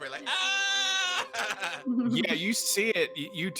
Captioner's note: shouting